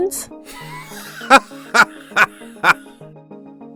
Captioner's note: rich man laugh